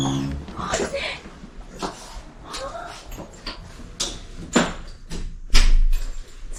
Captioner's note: surprised